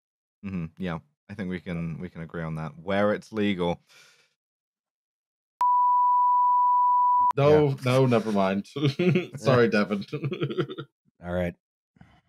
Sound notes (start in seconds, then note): 7.4 chuckles